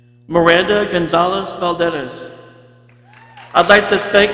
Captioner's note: people cheering